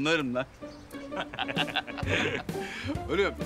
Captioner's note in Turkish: Gülüyorlar